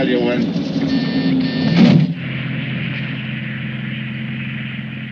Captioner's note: doorbell buzzes twice